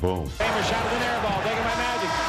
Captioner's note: horn blares